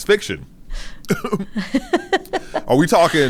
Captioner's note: chuckles; laughs